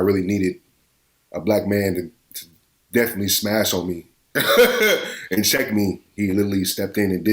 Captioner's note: laughs